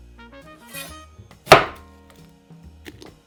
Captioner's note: knife sliding